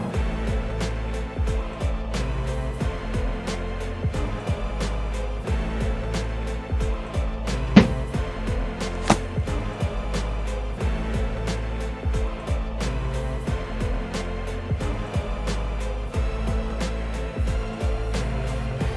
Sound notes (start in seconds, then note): 0.2 dramatic music; 7.7 board thunks; 7.7 dramatic music